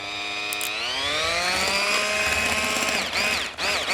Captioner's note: mixer whirring